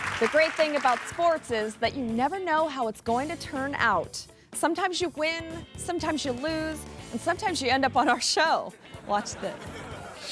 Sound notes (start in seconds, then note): 8.7 crowd laughs; 8.8 giggles